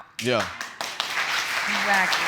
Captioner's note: audience applauds